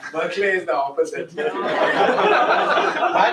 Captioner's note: laughter